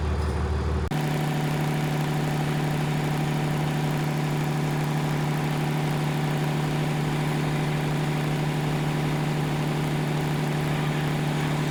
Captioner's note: engine running